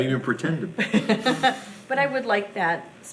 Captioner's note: laughing